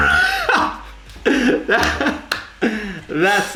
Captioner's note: laughs